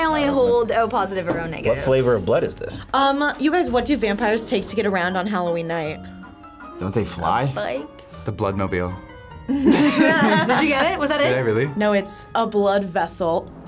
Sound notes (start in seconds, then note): 9.5 both laugh